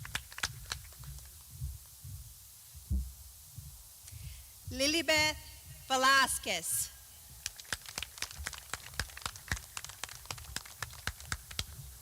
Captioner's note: clapping